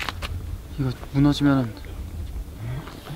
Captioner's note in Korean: 덜덜덜